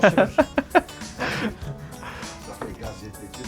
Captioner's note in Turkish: kahkaha